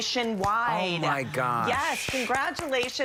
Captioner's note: applause